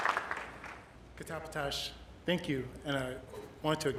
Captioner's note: speaking Indigenous language